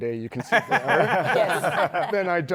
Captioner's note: laughter